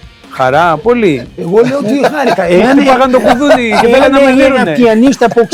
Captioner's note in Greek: γέλια